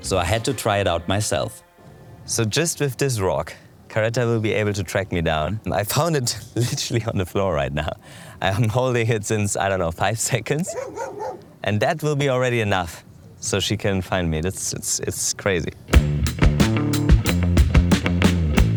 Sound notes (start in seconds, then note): 10.6 dogs barking; 16.0 upbeat music